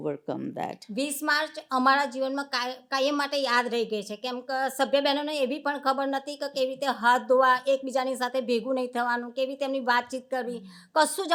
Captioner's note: speaking gujarati